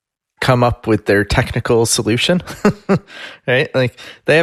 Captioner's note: laughs